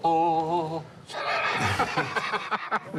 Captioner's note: laughs